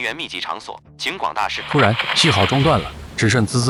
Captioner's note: static